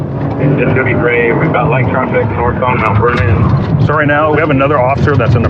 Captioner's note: radio